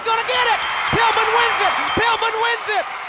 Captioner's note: crowd cheering; hands thudding; bell ringing